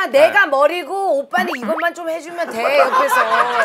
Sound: chatting

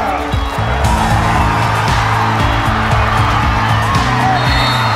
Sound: crowd cheering; whistle blows

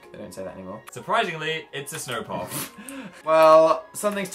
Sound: snorts

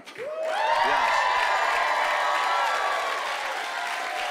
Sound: cheering and applause

